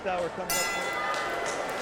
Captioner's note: bell ringing; crowd mumbling